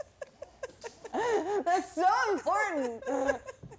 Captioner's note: laughs